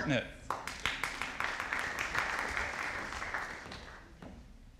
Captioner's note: audience applauding